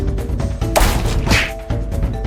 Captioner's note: ball hits